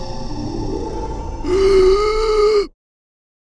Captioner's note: gasping